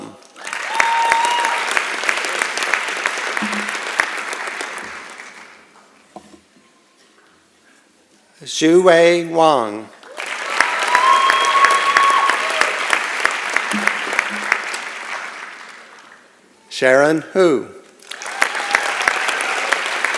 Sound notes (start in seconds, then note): 0.1 applause and Cheering; 10.0 applause and Cheering; 18.0 applause